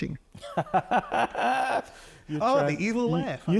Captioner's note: laughing